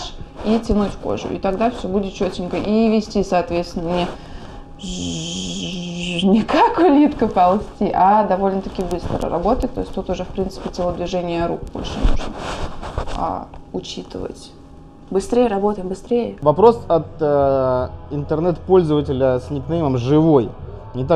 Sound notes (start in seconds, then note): 4.8 bzzzz